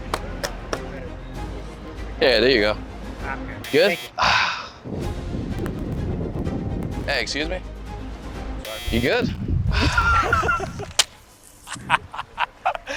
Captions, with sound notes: - Yeah. There you go. - I'm good. Thank you. - Good? (sighs) Hey, excuse me. You good? (both laughing)